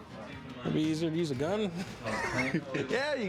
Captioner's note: laughs